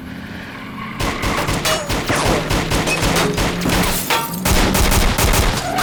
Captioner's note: tires squealing; gunfire